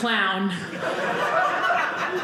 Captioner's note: audience laughing